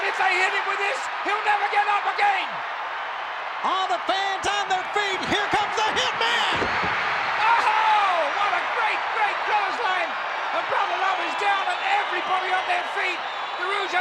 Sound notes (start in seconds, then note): 6.4 body thuds; 6.6 audience cheering